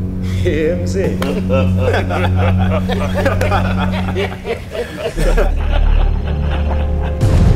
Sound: laughter

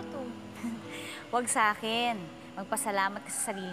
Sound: Cleocatra chuckles

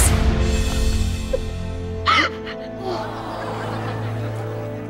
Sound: crying

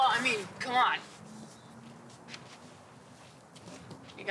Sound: cars pass in the distance

